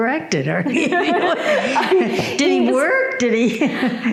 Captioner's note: audience laughing